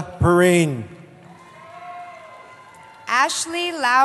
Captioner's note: cheering